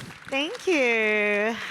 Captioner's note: applause